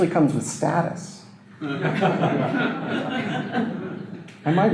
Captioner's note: audience laughter